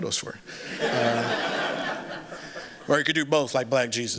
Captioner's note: laughter